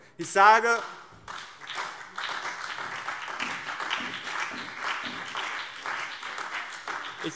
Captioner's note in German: Beifall BÜNDNIS 90/DIE GRÜNEN und SPD